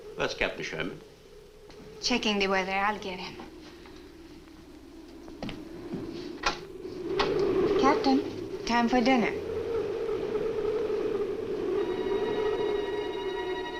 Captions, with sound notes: - Where's Captain Sherman? - Checking the weather. I'll get him. (wind howls) Captain? Time for dinner. (suspenseful orchestral music)